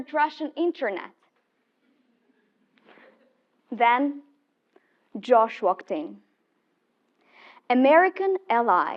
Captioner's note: laugh